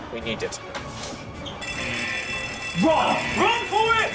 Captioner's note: alarm blaring